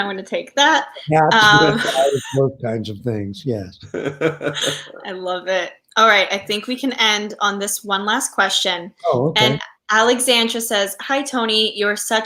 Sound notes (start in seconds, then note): 4.6 laughs